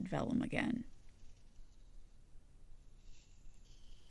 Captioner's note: tape peeling